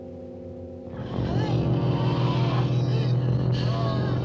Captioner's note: low growling